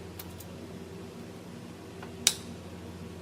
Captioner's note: clicking